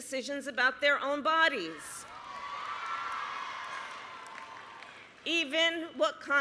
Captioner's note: applause